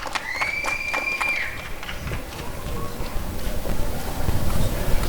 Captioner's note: applause and cheering